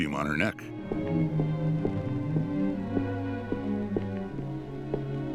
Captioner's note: approaching footsteps